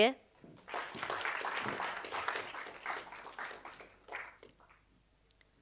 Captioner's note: audience applauding